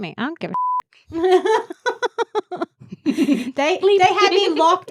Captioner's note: laughs